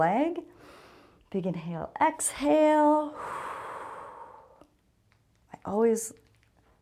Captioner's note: exhales